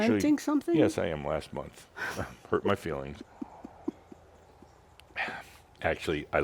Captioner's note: giggles